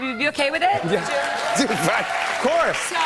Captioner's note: cheers and applause